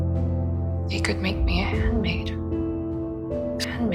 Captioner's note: voiceover